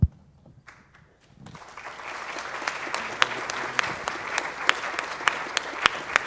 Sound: audience applauds

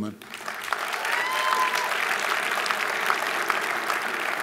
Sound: audience applauding

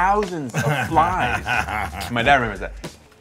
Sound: dad laughing

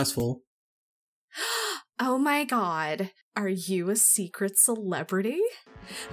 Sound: gasps

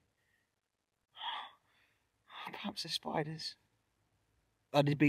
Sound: sighs

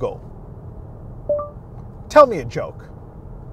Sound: Google Assistant beeps

